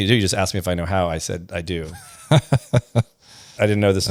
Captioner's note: laughs